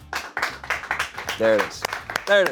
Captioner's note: crew applauds